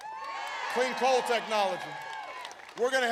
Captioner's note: applause